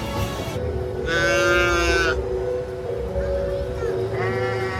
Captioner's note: sheep bleat